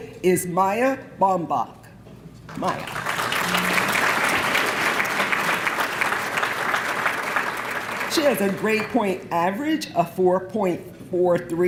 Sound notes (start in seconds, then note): 2.5 applause